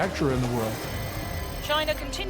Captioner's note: computer calculating sound effect